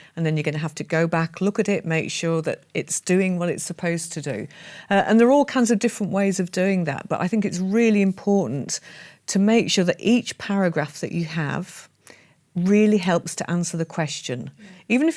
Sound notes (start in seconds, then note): none